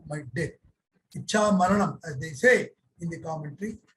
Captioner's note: speaking` in Sanskrit